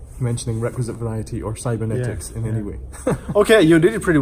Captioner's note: laughs